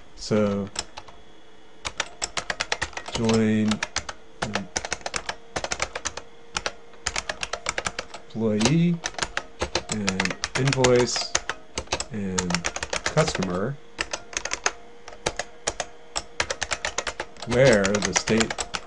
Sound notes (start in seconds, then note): 4.3 typing